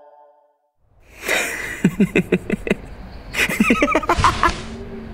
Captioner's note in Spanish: Madnex ríe